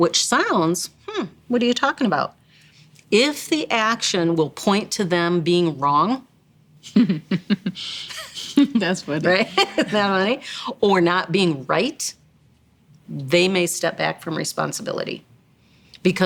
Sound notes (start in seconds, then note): 6.8 laughs